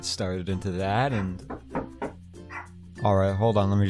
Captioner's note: knocking on door